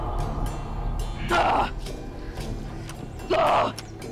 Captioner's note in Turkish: Haykırıyor